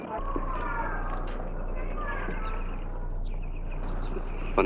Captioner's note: kids screaming